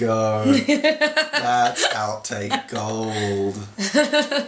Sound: laughing

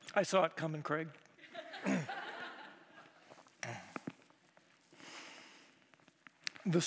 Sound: chuckles

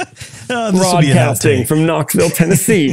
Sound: laugh

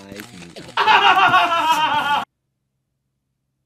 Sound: laughing

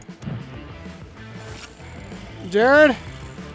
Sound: fishing lines whine

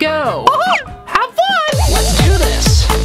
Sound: laughs

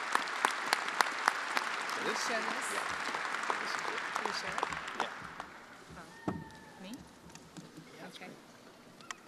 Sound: attendees applauding

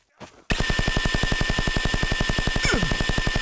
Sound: Crab Synth Chaingun Fires

